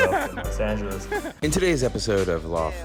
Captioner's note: laughs